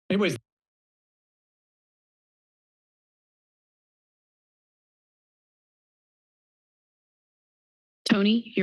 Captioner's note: silence